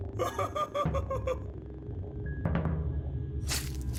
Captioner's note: laughing